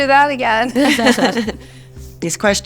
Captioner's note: all laugh